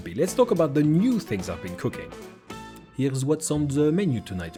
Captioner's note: french accent